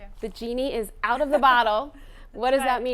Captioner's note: laughing